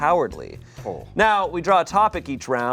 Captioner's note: groans